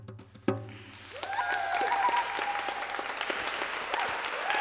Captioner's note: applause